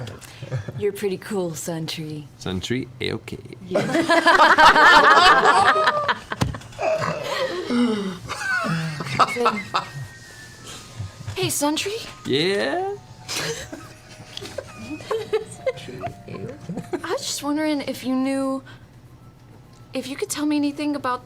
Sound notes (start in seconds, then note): 3.8 all laugh